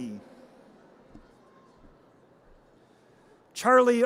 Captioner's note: audience cheers